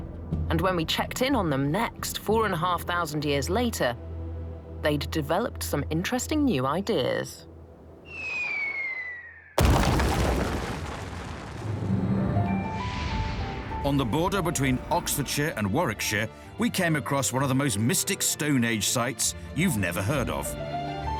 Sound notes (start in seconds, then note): 8.0 whistling; 8.1 crash